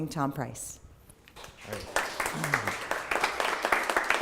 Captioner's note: applause